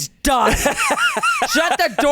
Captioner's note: laughs